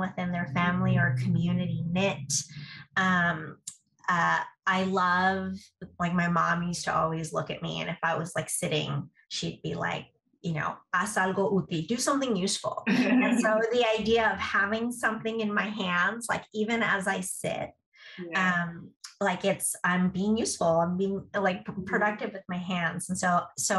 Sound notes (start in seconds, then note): 12.9 laughter